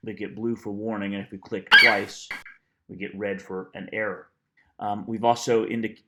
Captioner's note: FlightCheck eagle screeches